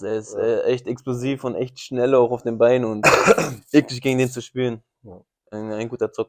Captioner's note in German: räuspern